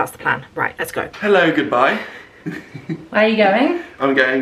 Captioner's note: chuckles